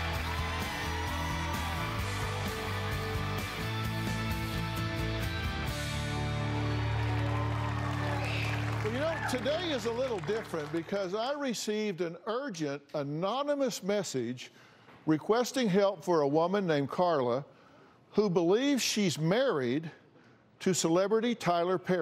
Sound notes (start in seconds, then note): 7.7 cheers and applause